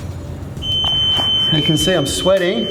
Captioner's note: beeping